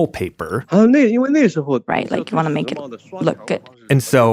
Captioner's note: speaking Mandarin Chinese